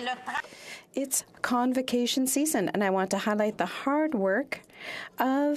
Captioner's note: speaking French